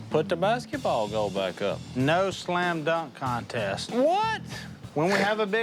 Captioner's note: scoffs